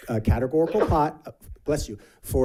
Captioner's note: sneezes